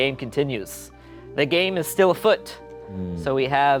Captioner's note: werewolf howling